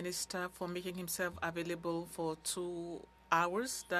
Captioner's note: speaking French